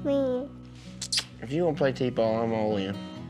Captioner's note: kisses